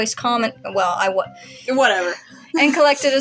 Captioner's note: inhale